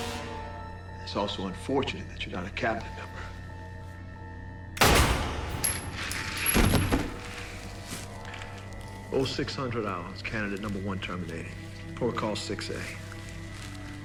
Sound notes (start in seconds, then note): 4.8 gunshot